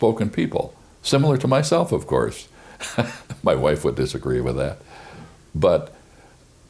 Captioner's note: laughs